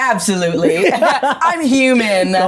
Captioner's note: both laughing